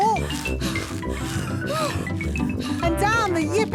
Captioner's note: puffing and panting